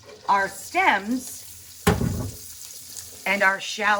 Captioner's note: food sizzling